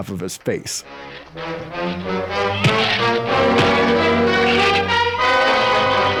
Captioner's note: fists pounding; suspenseful music